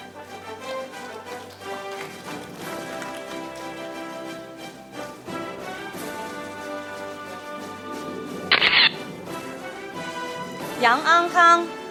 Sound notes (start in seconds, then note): 0.1 audience applauding; 3.1 orchestral music; 8.4 camera shatters